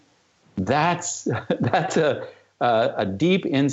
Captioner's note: laughter